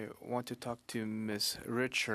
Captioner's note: speaking French